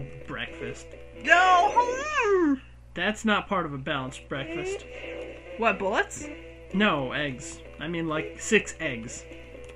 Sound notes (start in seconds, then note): 1.7 howls in frustration